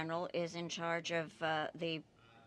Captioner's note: speaking French